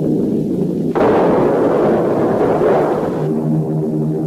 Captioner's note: plane engine revving; explosions booming; plane engines revving